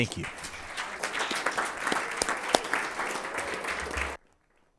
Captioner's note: audience applauding